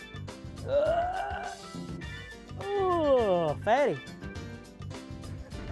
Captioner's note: grunts